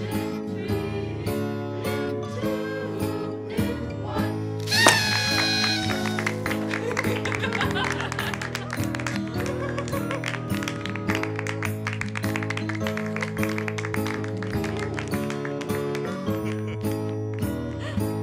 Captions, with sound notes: in three in two in one (party horn, laughter, applause)